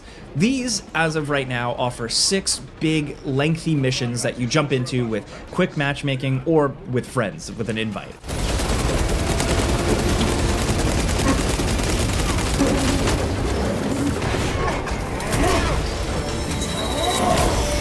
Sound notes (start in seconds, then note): 8.2 machine gun blasting; 12.6 enemies grunting; 12.6 machine gun blasting